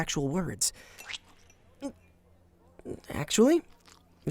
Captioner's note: winces